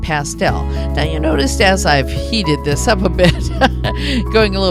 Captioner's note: laughs